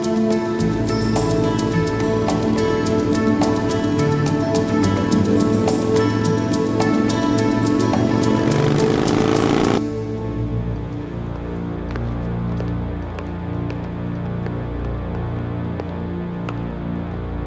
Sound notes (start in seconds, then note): 7.8 motorcycle revs; 11.0 dramatic music playing